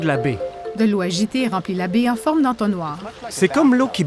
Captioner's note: water sloshing